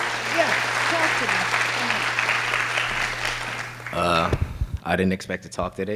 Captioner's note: audience claps